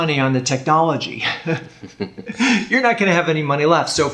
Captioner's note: chuckles